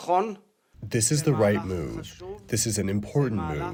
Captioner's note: through translator